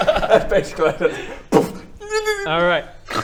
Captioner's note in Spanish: llora; Boof